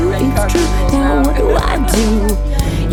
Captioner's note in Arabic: الأحاديث غير الواضحة